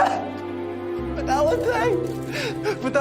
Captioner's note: camera shutters click